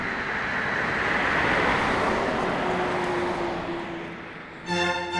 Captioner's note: car engine revving